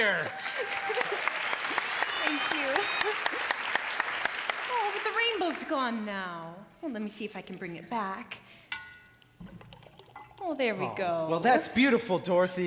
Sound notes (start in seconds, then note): 0.0 cheers and applause; 8.9 poured vinegar glugging